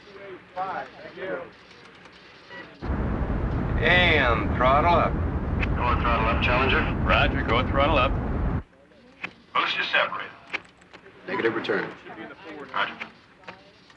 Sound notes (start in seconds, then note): 6.1 man On Radio